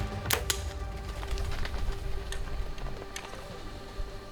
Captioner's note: bowstring thuds